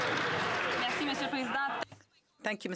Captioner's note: some Applause